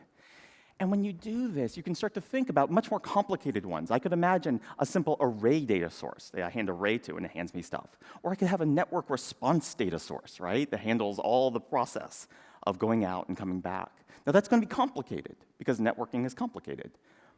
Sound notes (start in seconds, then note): none